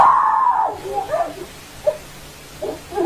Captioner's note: screaming